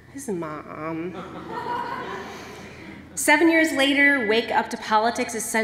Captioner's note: laughter